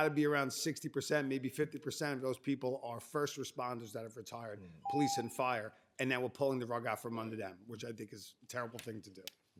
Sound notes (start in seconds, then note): 4.8 timer tone